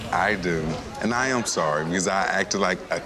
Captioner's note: people chattering